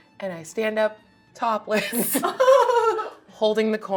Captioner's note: laughing